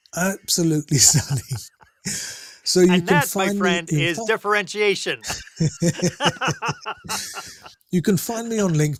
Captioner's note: laughter